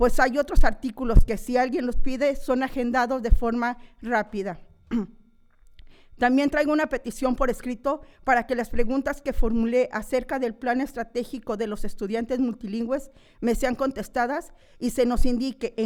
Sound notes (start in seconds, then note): 0.8 continues speaking in foreign language